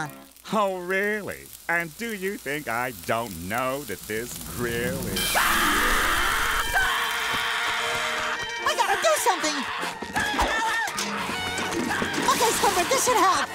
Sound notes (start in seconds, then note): 5.1 screaming